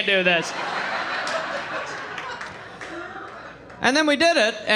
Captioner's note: audience laughing